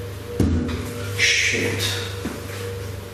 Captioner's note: bang emits from wall